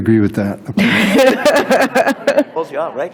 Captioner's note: board laughing